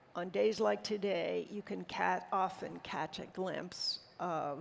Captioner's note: none